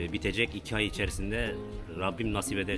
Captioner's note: talking in Turkish